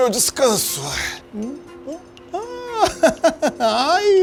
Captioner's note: man laughs